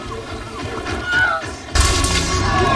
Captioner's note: Wilhelm scream